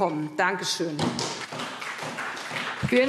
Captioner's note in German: Beifall SPD